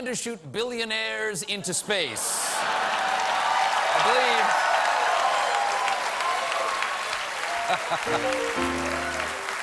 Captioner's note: cheers and applause